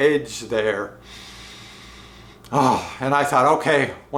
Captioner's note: shudders